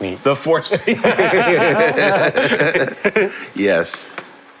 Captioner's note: laughing